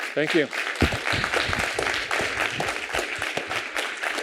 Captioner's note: applause